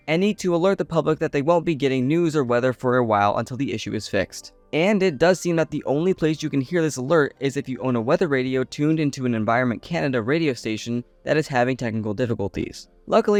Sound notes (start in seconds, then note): none